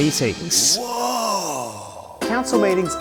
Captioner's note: woahhhhhhhhhhhh